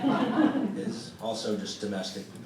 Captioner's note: audience chuckling